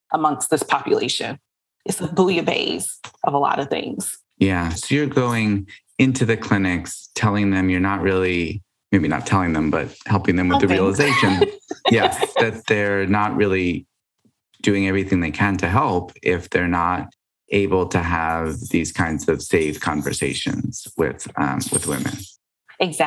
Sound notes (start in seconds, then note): 11.4 laughs